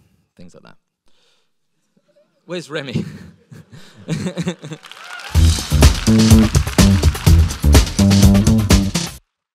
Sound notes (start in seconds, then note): 4.6 audience applauding; 5.3 upbeat music